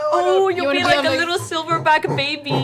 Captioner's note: gorilla noises